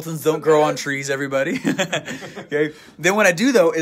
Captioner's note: laughing